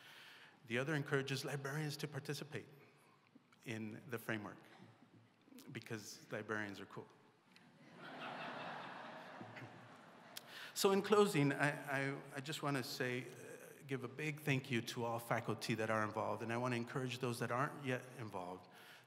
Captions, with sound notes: The other encourages librarians to participate in the framework. Because librarians are cool. [ Laughter ] So in closing, I just want to say -- give a big thank you to all faculty that are involved. And I want to encourage those that aren't yet involved